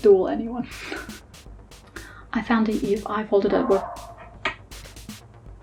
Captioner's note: more 🐩 dog barks; 🐩 dog barks